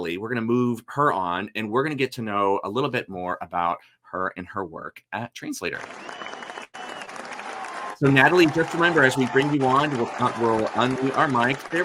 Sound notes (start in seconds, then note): 5.7 audience applauding; 5.8 audience cheering